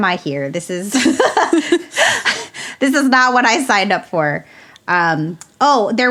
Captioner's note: both laugh